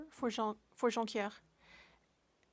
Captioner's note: speaking French